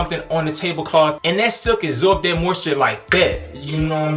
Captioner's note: snapping